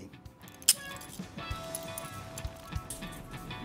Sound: handcuff Clicks

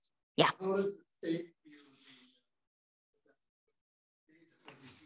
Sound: faintly speaking

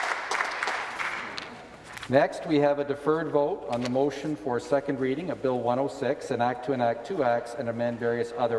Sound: applause

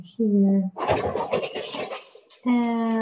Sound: crash

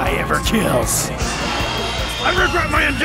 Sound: shrill roar

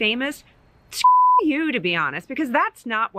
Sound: beep

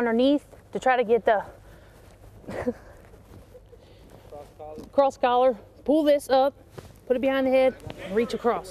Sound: chuckles

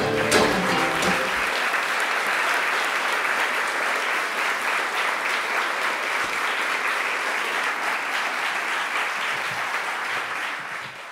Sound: applause

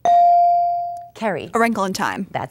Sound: dinging

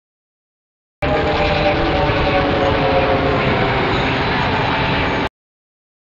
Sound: crazy distorted screaming

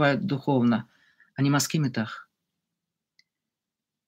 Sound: in Hebrew

